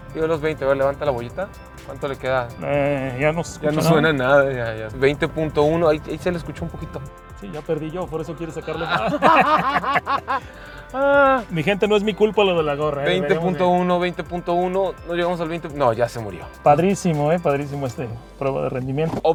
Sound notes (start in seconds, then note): 8.8 laughter